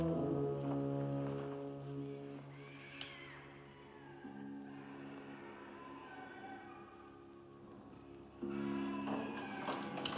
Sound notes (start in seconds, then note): 0.0 ominous music; 2.5 faint animal shriek; 3.8 eerie noises; 8.4 eerie inhuman noises